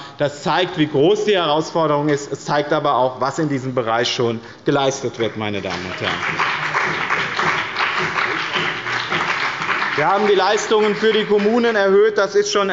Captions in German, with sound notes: Das zeigt, wie groß die Herausforderung ist. Es zeigt aber auch, was in diesem Bereich schon geleistet wird. (Beifall bei dem BÜNDNIS 90/DIE GRÜNEN und bei Abgeordneten der CDU) Wir haben die Leistungen für die Kommunen erhöht; das ist schon